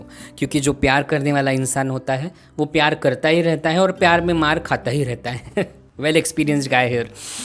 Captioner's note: sniggers